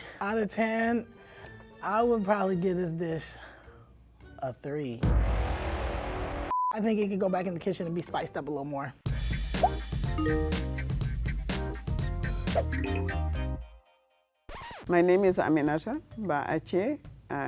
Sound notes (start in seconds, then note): 6.5 beep; 9.0 upbeat music; 14.5 record scratch